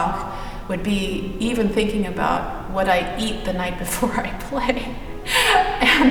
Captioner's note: laughs